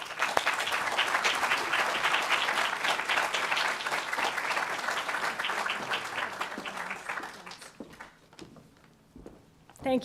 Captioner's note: applause